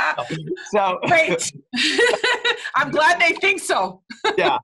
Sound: laugh

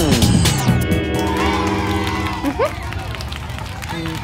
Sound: beeping; cheering

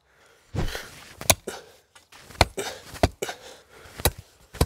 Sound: tool pounding

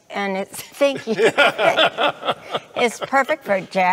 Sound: laughing

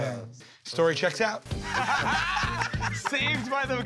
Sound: laughter

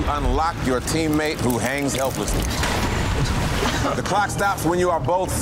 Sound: water splashing

